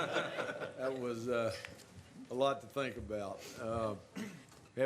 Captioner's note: laughter